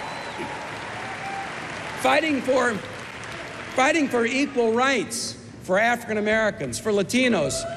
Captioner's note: cheers and applause